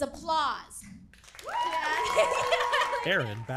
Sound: audience applauds

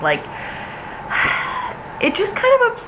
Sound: sighs

